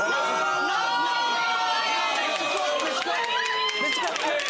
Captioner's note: audience exclaiming